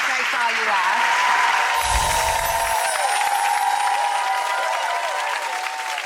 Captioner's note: audience cheering and applauding